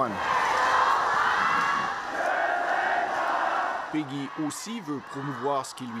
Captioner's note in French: cris du public